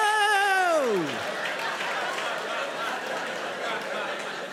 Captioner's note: audience laughing